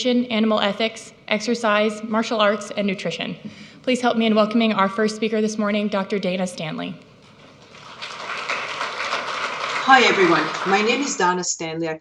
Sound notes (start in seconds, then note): 7.3 audience clapping